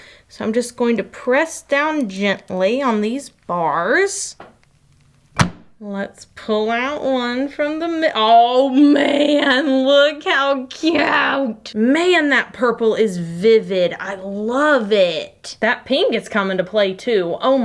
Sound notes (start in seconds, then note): 5.4 light click